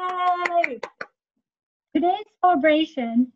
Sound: clapping

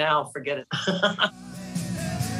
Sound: chuckles

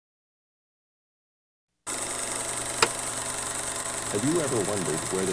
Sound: projector clicking

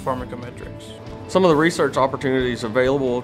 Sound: voiceover

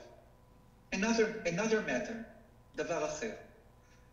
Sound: speaking foreign language

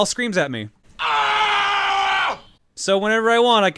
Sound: screams

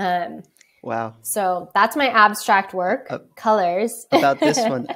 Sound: laughs

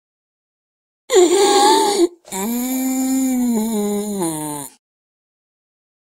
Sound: sound of zombie

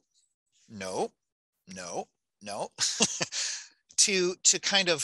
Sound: laughing

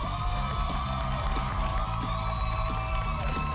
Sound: cheers and applause

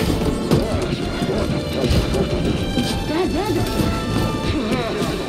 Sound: alien language

